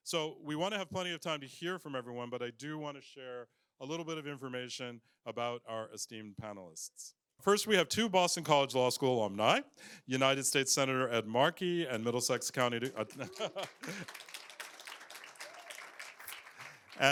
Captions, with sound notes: So we want to have plenty of time to hear from everyone. But I do want to share a little bit of information about our esteemed panelists. First, we have two Boston College Law School alumni-- United States Senator Ed Markey, and Middlesex County-- [APPLAUSE]